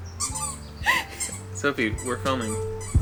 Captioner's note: laughing